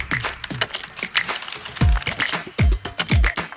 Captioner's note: upbeat hip hop music; keyboard typing